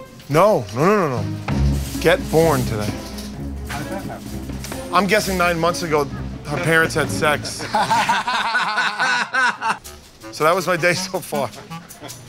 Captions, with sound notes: No. No, no, no. Get born today. I'm guessing nine months ago, her parents had sex. [ Laughter ] So that was my day so far.